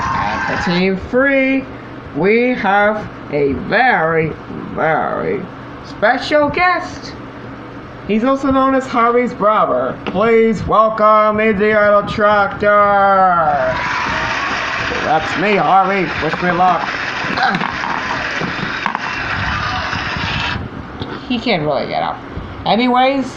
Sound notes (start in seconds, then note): 4.8 in Deep Voice; 13.7 cheering And Clapping; 20.6 grunts